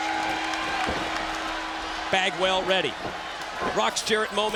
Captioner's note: bell ringing